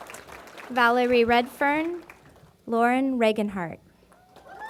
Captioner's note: applause; cheering & Applause